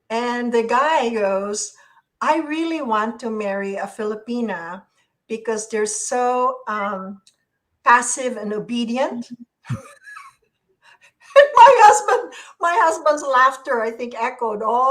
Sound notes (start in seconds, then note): 9.6 laughs